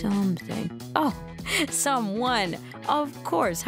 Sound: laughs

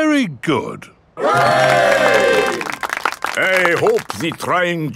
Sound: clapping

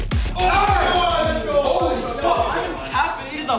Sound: all shout

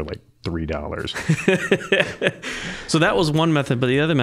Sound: laughing

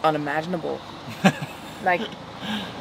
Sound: laughs

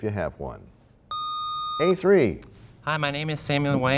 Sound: sound of a buzzer

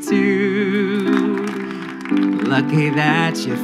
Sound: scattered applause

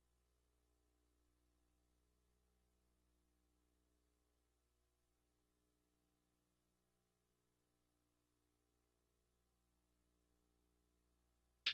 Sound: silence

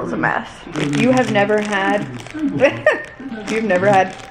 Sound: laughing

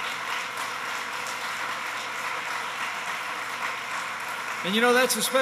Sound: applause

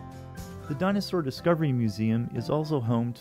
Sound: voiceover

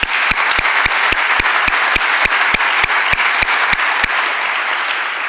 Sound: applause

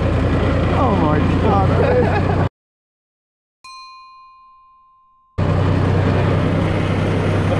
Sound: bell dinging

